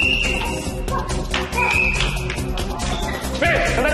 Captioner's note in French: whistle